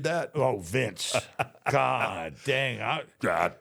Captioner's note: The Undertaker laughs